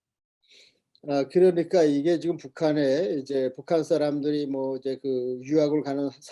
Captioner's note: speaking Korean